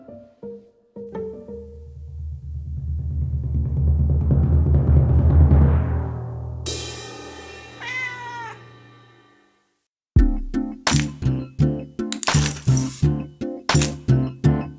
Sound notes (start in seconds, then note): 1.7 drum roll; 6.6 cymbal crashes; 7.7 cat meows; 10.2 chill music